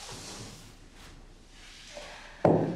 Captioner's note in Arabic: none